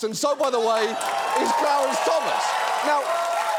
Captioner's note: audience cheers, applauds